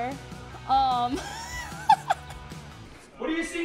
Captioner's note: laughing